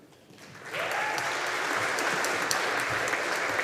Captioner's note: audience applauding